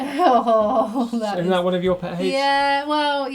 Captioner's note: laughs